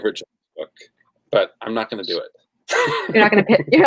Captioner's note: laughs